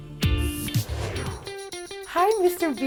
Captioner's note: graphics whooshing; upbeat music